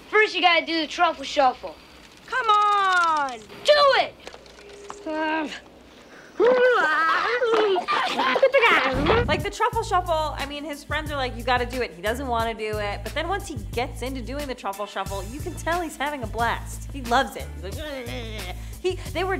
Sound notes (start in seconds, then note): 1.9 pinwheel rattles; 8.9 air whooshes